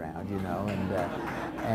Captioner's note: crowd laughs